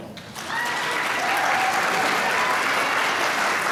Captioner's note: applause